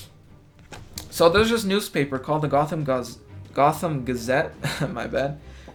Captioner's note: chuckles